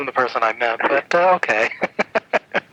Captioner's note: laughs